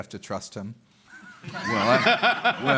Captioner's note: laughter